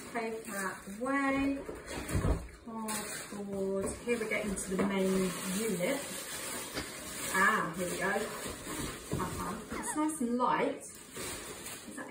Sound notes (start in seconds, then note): 1.1 packaging rustles